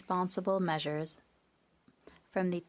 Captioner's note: speaking French